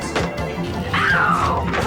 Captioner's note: frantic music; telephone ringing